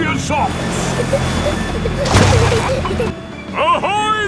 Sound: peppa and george giggling

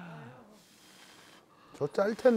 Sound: blowing

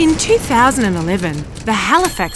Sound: typing

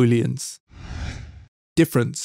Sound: logo whooshes

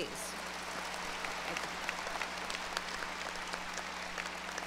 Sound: graduates applause

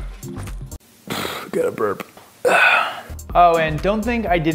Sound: blows

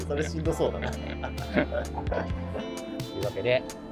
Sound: laughing

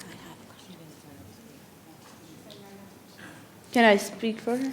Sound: speaking faintly

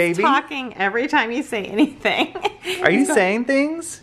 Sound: laughs

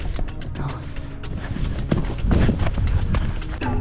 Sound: panting

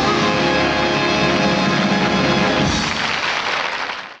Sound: audience applauding

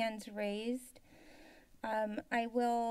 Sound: inhales

